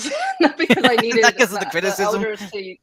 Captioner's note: laughs